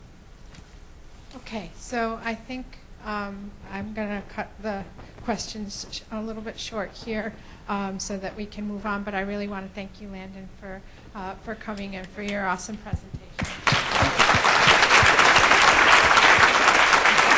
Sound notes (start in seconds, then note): 1.4 voiceover; 13.4 clapping